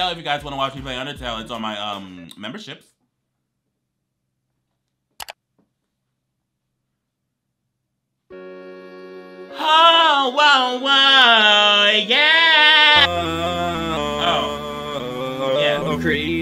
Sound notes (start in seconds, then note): 5.4 finger clicks; 8.3 relaxed electronic music